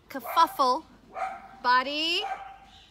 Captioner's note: dogs barking